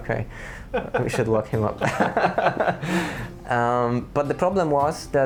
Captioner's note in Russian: смеется; смеется